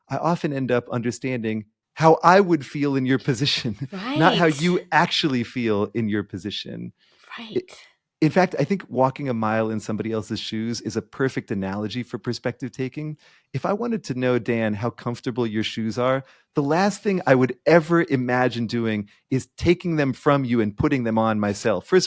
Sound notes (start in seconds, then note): 3.9 chuckling